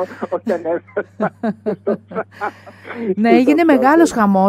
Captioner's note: laughter